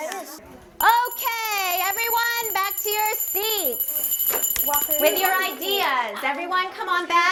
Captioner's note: bell ringing